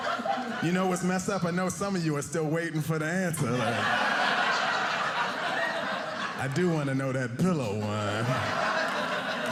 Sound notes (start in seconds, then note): 3.3 audience laughing